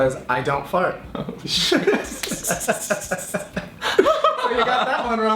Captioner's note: laughing